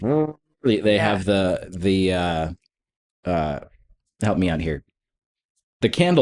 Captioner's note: imitates trumpeting